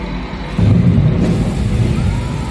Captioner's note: explosion